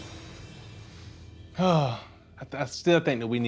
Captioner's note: sighs